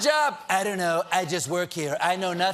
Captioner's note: trump accent